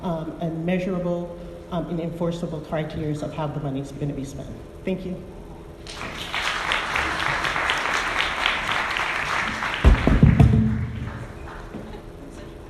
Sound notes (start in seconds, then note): 5.8 audience applauding